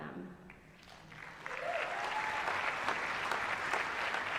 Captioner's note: applause